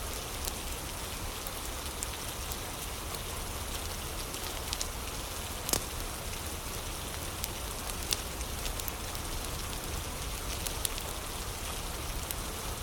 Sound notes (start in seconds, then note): 0.0 fire crackling